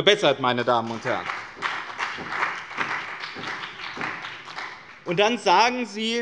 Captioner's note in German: Beifall bei dem BÜNDNIS 90/DIE GRÜNEN und der CDU